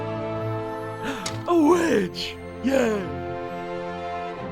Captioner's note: gasps